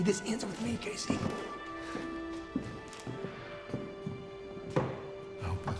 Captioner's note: casey's footsteps